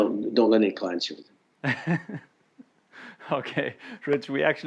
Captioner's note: laughs